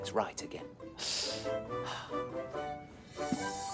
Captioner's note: mr. perkins sighs